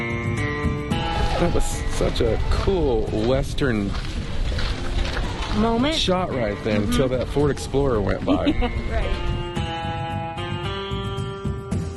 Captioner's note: laughing